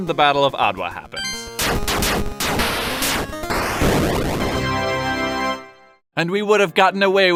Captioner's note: 8 bit SFXplay